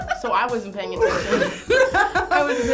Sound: laughing

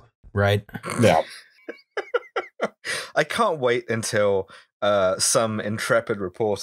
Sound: laughter

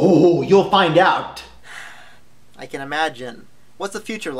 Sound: sigh

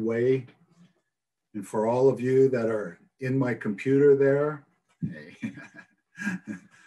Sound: laughs

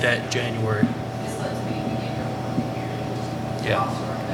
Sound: faintly speaking

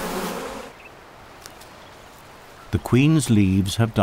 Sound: nature sounds

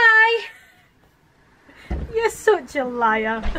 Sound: laughing

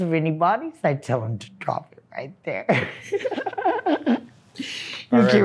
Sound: laughs

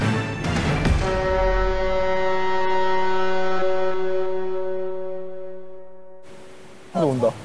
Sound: waves ON

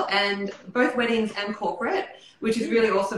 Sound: none

